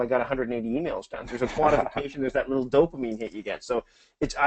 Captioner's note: laughs